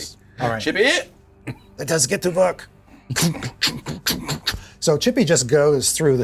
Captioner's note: chunk sounds